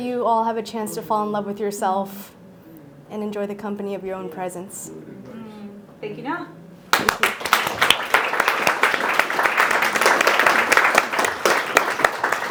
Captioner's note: applause